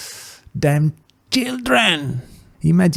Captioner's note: inhale